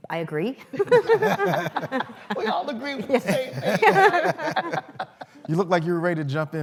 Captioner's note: laughter